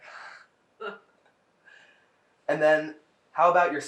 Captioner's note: laughing